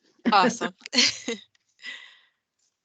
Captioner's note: chuckles